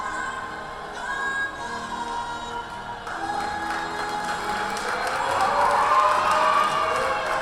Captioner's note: audience cheers